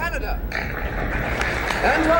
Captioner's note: crowd applauds